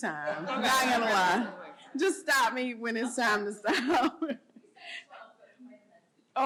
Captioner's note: laughter